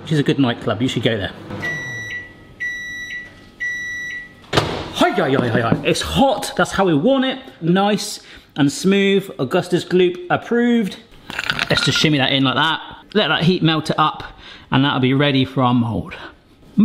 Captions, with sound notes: which is a good nightclub, you should go there. (microwave bleeping) Ahh, it's hot, that's how we want it. Nice and smooth Augustus Gloop approved. Let's just shimmy that in like that, let that heat melt up it, and that'll be ready for our mould.